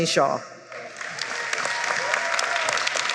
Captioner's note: applause